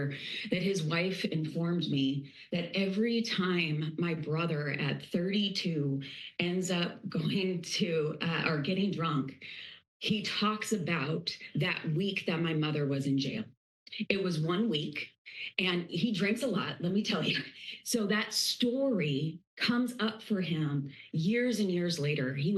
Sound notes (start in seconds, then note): 17.0 chuckling